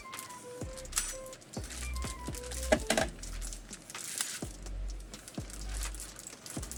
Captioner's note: crackling